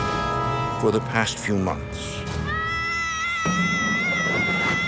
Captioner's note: screams